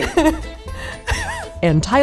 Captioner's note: laughs